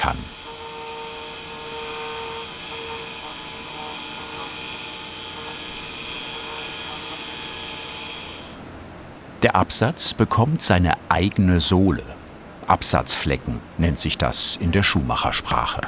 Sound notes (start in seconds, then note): 3.3 whirring